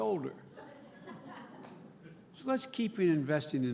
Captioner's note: laughter